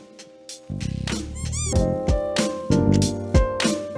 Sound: happy plant noise :D

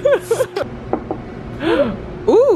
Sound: laughing; knocking; gasps

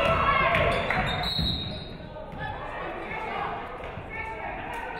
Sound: referee whistles

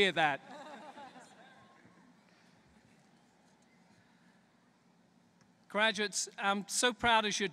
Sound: laughter

